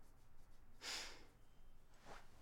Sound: sigh

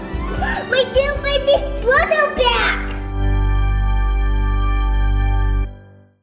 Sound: gasps

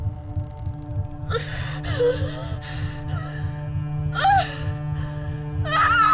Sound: gasps

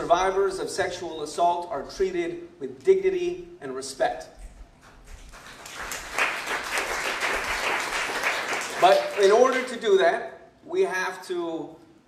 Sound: applause

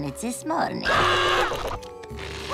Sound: screaming; groaning

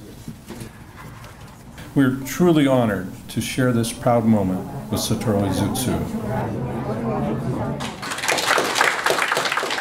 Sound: applause

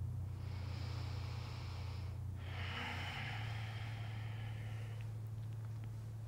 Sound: deep breathing

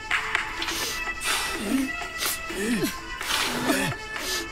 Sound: people grunting continues

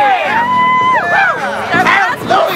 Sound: cheers

